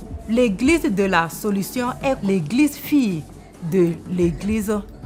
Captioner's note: speaking French